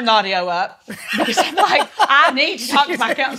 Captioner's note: laughs